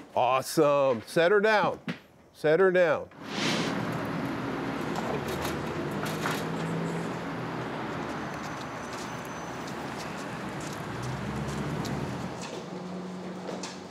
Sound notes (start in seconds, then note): 3.0 traffic humming; 13.1 shuffling footsteps